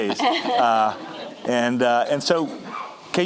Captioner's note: laughing